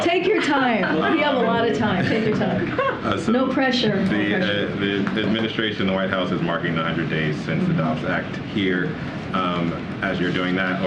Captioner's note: laughter